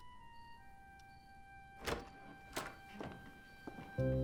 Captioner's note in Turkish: Kapı açılma sesi